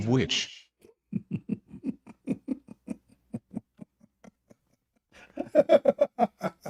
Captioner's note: Ketawa